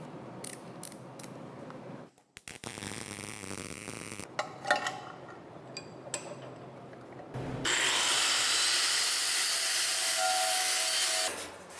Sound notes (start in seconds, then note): 2.4 welding torch buzzing; 7.6 machine whirring